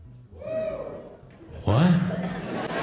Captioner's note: audience member cheers